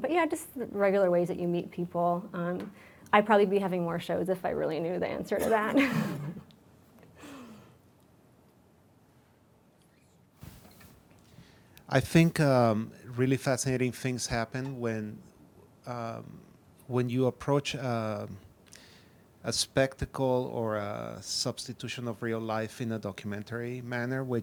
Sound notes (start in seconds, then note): 5.6 laughs